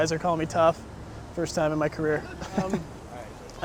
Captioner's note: laughs